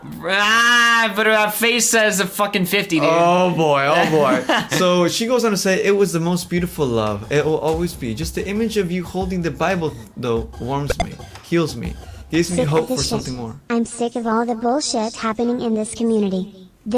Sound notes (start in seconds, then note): 4.0 laughs